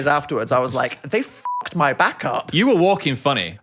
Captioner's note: beep